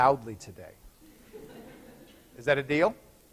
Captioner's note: laughter